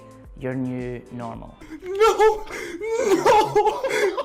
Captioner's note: cries